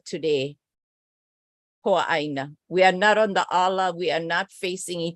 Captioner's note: non-english speech